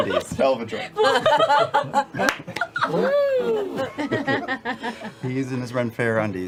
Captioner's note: laughter